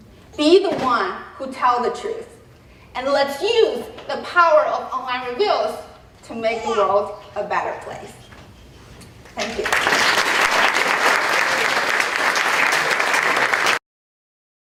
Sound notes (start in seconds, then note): 9.4 applause